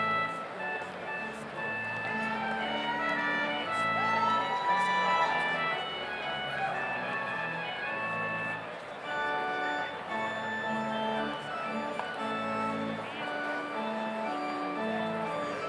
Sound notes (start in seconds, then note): 4.0 audience cheers; 10.5 slow organ music continues